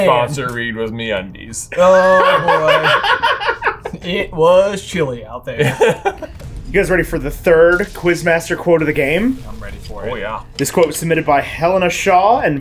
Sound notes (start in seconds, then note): 1.8 laughs; 5.6 laughs